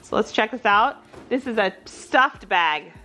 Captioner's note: none